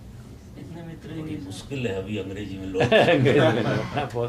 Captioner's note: laughter in audience